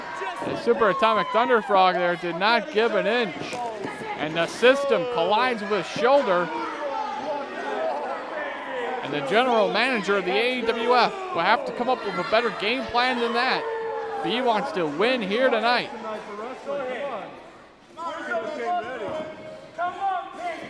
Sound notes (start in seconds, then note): 16.6 crowd clamoring